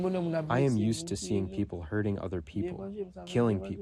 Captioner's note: through translator